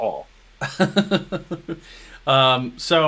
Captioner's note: laughing